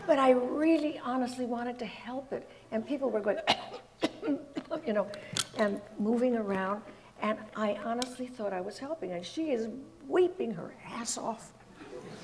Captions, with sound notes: but I really honestly wanted to help it. And people we're going (coughs) you know, and moving around, and I honestly thought I was helping. And she is weeping her ass off.